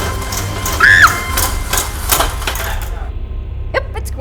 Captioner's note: pot clangs; screams